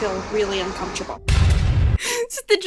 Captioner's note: music stabs dramatically; inhales sharply